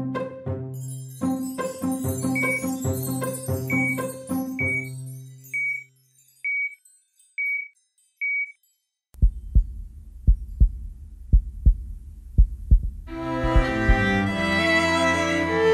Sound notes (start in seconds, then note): 9.2 heartbeat